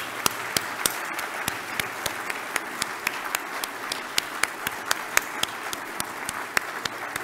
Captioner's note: applause